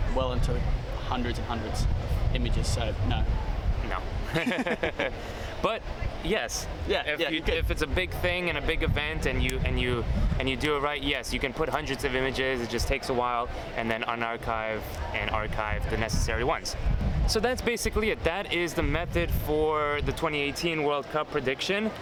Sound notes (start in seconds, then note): 4.2 both laughing